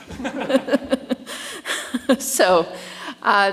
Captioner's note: chuckles; platform party chuckles